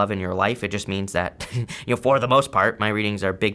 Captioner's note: chuckling